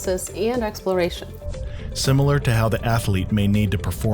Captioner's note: voiceover